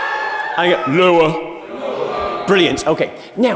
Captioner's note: audience, in gruff voices: "LOWER!"